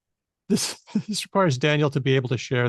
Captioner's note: chuckles